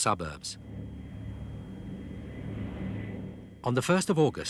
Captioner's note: engines roaring